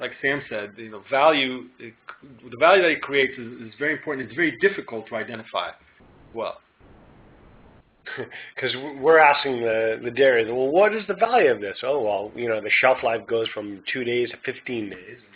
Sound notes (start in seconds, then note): 8.0 chuckles